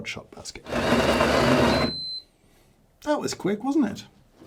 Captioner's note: machine grinds and beeps